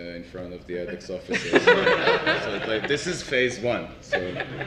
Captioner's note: laugh